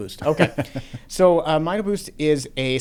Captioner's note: laughs